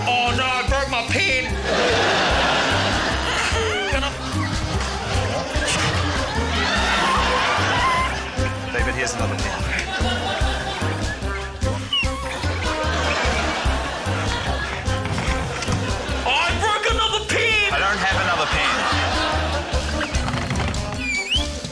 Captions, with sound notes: - Oh no, I broke my pen. (LAUGHTER) (MUMBLES, GRUNTS) (LAUGHTER) - David, here's another pen. (WHIMSICAL MUSIC) (LAUGHTER) - Oh, I broke another pen! - I don't have another pen. (LAUGHTER)